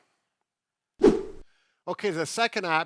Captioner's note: fast swooshing